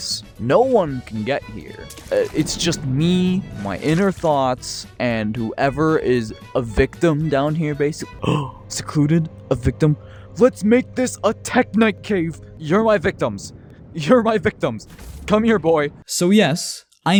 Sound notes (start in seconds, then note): 10.0 gasp